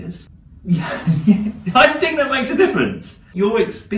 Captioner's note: laughs